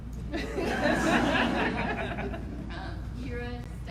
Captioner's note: audience laughs